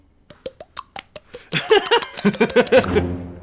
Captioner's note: makes clucking sounds